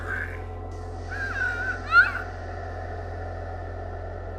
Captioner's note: girl screams; scary music